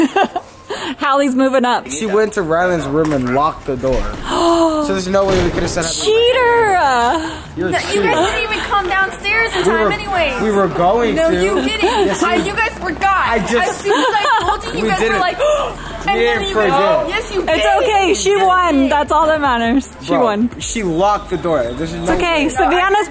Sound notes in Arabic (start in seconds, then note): 0.7 ضحكات خافتة; 7.2 يلهث